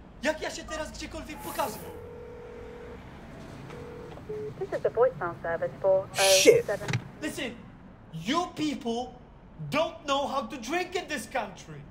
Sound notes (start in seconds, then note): 1.4 dials number, phone rings